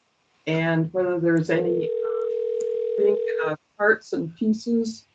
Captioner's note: dial ring